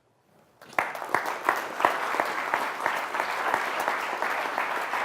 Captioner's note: applause